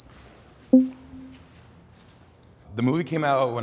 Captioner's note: tense music; text box popping